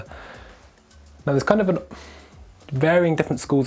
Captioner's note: sigh